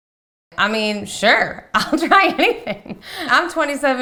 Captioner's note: laughing